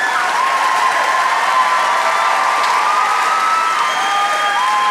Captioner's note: audience applauds